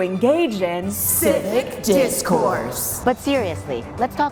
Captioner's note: in Unison